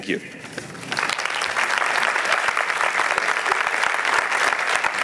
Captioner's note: applause